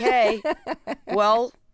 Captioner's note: laughter